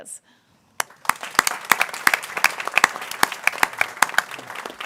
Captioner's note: people clapping